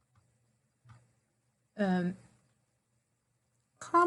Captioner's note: mouse clickings